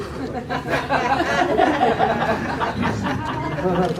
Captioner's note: laughter